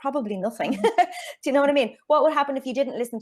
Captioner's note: chuckles